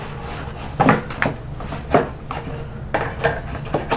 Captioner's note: carton rustling